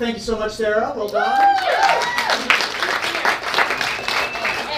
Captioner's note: audience cheers